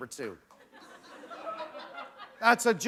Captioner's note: laughter